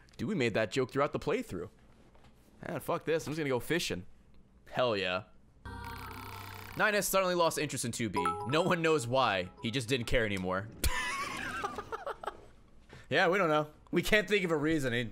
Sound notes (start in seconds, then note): 10.8 laughs